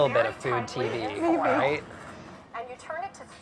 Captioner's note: laughs